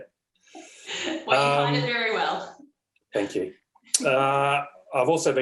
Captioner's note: laughs